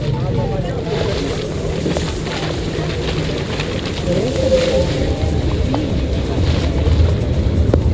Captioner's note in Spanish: sonido del agua, golpeando el témpano